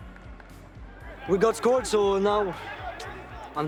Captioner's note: clapping; team chattering